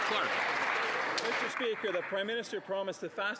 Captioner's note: some Applause